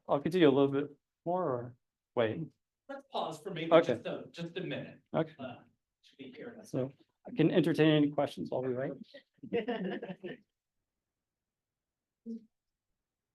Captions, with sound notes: I'll continue a little bit more or Wait. Let's pause for maybe just a minute. I can entertain any questions while we wait. [LAUGHTER]